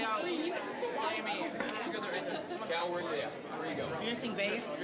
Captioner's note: general chatter